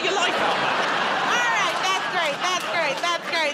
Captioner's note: laughter